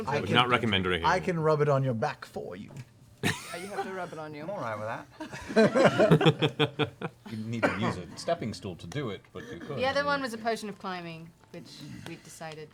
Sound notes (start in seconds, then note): 6.9 laughter